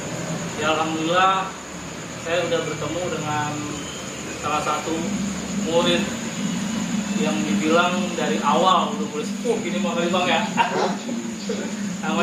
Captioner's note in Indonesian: tertawa